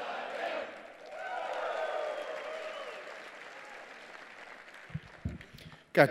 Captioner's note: cheers and applause